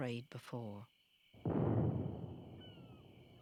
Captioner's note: cannon fire